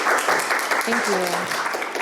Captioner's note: audience applauding